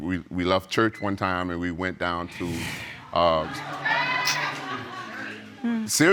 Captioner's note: audience laugh